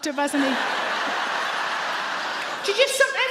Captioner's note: audience laugh